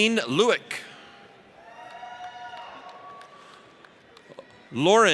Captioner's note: audience cheers